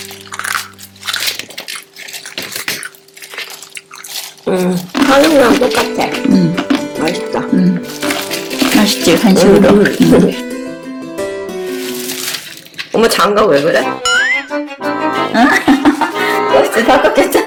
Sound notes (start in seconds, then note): 0.5 crunch!; 15.3 laughter